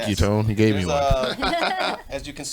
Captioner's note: laughs